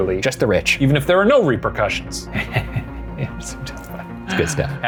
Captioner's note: laughs